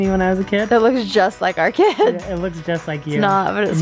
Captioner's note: laughs